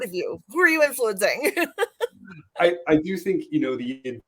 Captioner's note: laughter